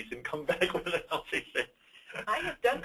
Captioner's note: laughs